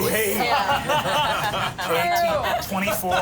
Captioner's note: everyone laughs